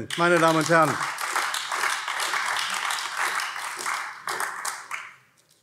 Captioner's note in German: Beifall AfD